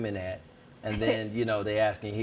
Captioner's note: laughs